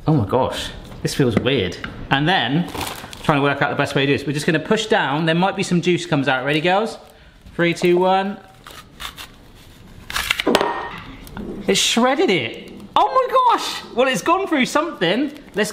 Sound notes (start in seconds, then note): 8.9 grapes crunching